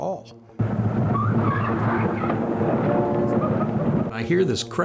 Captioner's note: tires screeching